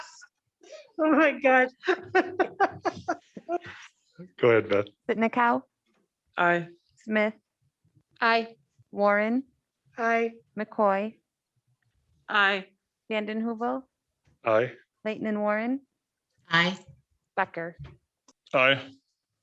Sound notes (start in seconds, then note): 1.8 woman laughs